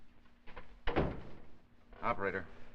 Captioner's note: sound of door closing